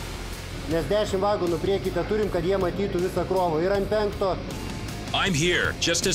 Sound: non-english speech

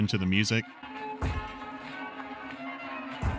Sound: thud; thud

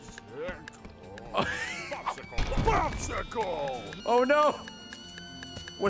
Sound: laughs

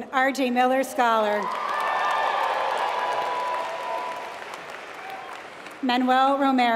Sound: applause

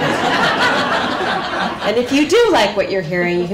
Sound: laughter

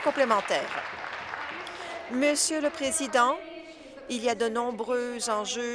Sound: applause

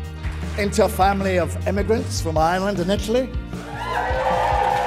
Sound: audience cheers

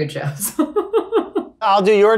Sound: Lizzie laughs

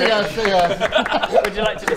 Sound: applause

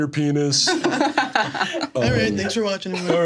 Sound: everyone laughs

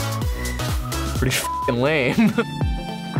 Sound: chuckles

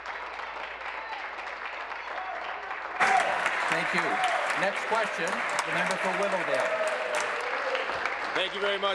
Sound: applause

